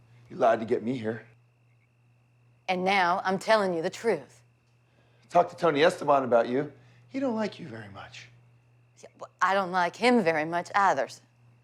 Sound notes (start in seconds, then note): none